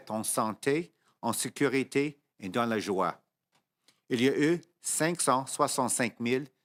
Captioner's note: speaking French